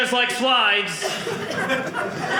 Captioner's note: audience laughing